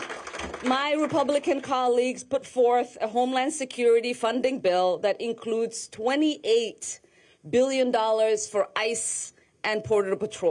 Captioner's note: applause